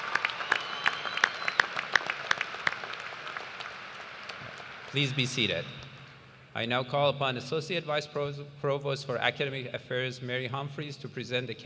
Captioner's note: cheers and applause